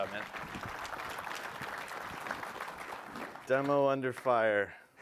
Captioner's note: applause